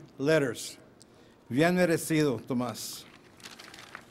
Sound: foreign words

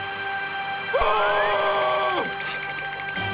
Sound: screaming

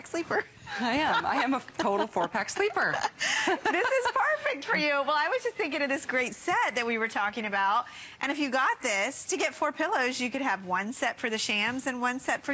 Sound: laughter

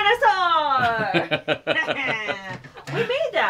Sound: laughing

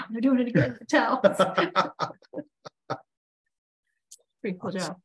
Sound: laughs

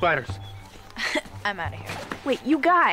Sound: chuckles

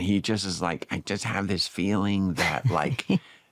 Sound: mimics david

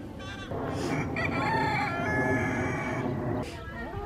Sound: rooster crows

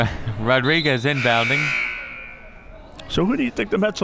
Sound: buzzer

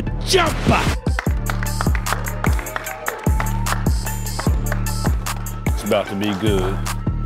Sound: hands clapping; crowd cheering

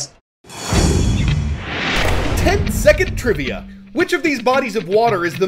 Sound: voice-over

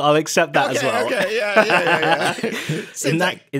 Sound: laughing

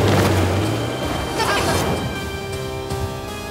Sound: transition sound

